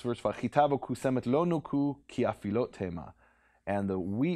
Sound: speaking in Hebrew

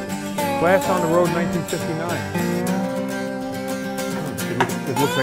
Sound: voiceover

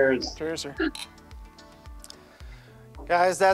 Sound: glasses clicking

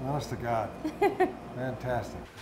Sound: chuckling

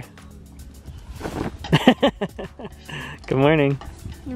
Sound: laughs

